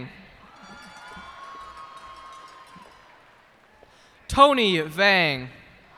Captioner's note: cheers and applause